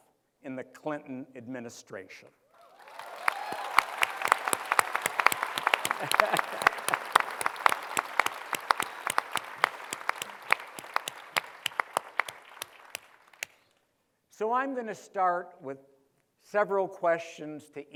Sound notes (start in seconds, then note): 2.4 applause; 5.7 laughs